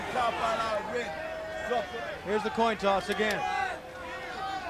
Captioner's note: crowd chatter